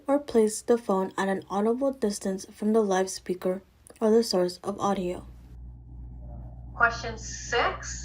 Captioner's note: pre-recorded Lecture Playing